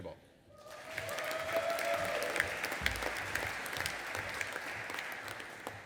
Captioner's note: audience applauding and cheering